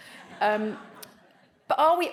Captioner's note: audience laughs